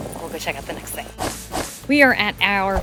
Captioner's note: screen whooshing